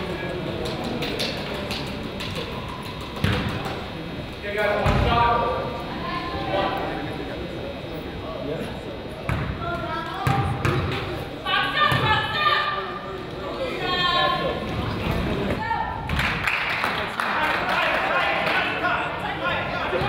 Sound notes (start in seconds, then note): 1.3 crowd applauds; 4.8 referee yells; 16.1 crowd applauds